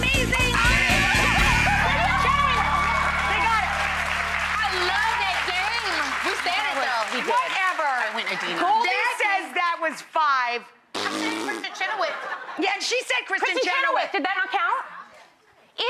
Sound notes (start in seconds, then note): 0.9 buzzer rings; 3.9 audience applause